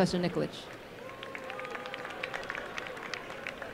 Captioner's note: applause